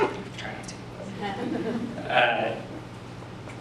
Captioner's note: audience quietly chuckles